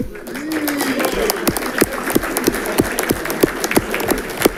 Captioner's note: audience clapping